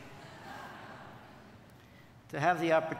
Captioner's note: audience laughing